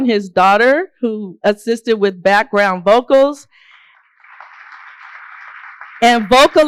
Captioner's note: applause